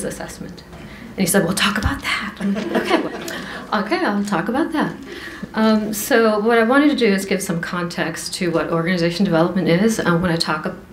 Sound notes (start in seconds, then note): 2.4 laughter